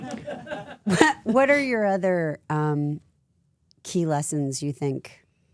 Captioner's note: laughs; crew laughing